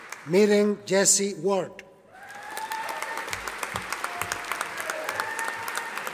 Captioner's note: audience applauding